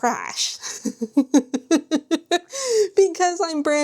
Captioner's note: laughs